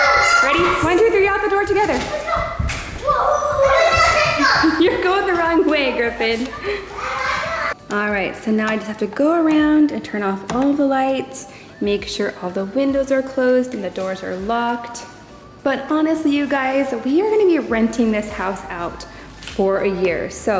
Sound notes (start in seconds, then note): 3.3 kids yelling